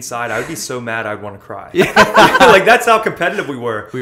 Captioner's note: laughter